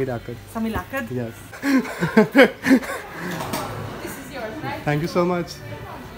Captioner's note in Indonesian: Tertawa